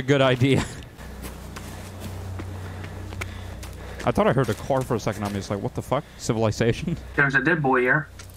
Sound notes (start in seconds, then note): 0.0 omenous background noise